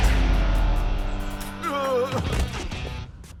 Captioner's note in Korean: 쿵 치는 소리; 쿵 쓰러지는 소리; 신음